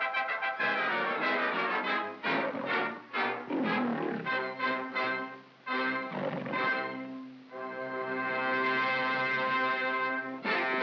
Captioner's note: lion growling; dramatic orchestral music; jaunty music